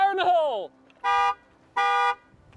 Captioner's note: horn Honking